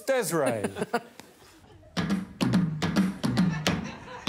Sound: drums bonging; Desiree chuckling

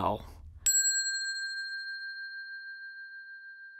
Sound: bell dinging

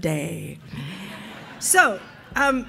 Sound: audience laughing

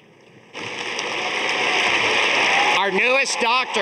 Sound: audience applauding

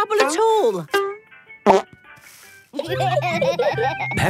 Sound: laughter

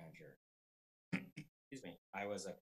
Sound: coughing

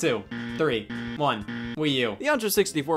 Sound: game buzzer

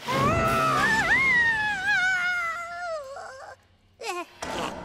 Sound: screams

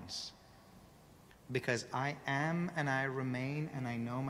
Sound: none

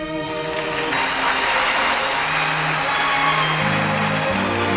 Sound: audience applauding

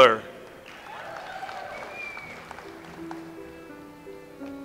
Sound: audience applauds

